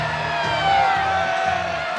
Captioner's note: cheering